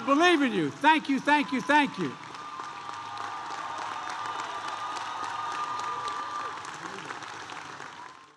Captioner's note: applause